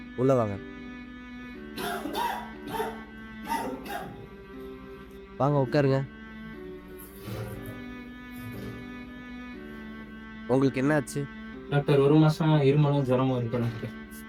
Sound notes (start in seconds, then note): 1.7 severely coughs